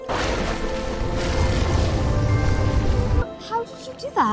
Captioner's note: gentle ethereal music; wave roaring